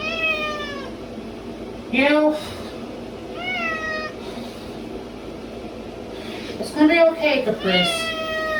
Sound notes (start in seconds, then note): 0.0 Caprice meows loudly; 3.4 Caprice continues meowing; 7.6 Caprice continues meowing